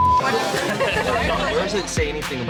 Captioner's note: patron laughs